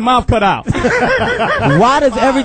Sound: all laugh

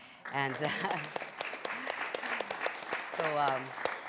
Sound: applause

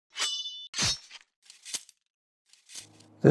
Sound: sword slashing

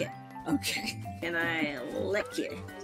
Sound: laughs

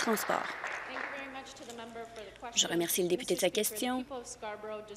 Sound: applause

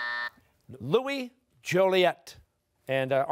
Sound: buzzer sounding

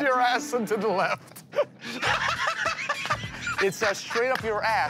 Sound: laughter

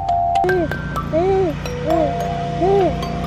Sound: cooing; playing xylophone

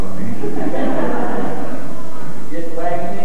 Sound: laughter

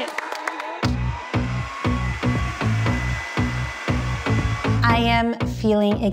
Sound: moms cheering; moms clapping; upbeat music; machine whirring

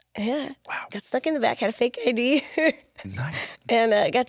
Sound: laughs

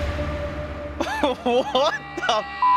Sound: laughs

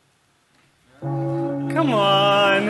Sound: bell ringing

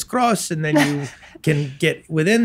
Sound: laughs

